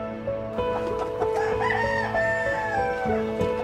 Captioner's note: cackling; rooster crows; dreamy music